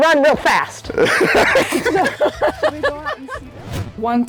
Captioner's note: laughter